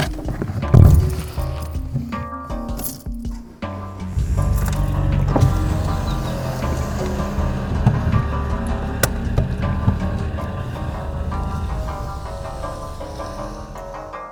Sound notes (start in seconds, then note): 4.1 V12 engine start